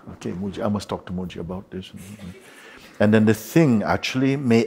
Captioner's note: soft laughter